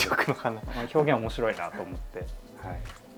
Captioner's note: laughs